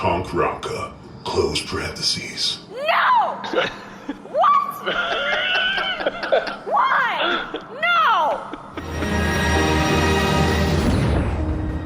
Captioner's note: screaming